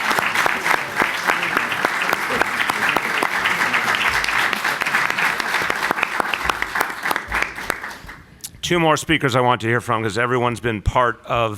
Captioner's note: applause